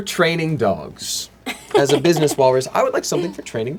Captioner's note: laughs